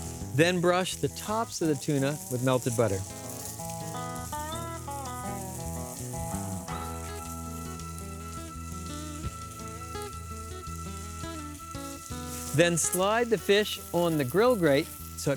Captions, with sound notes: THEN BRUSH THE TOPS OF THE TUNA WITH MELTED BUTTER. [SIZZLING] THEN SLIDE THE FISH ON THE GRILL GRATE SO IT PICKS UP